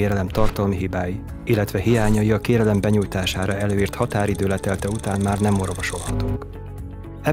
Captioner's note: sound of a quickly ticking clock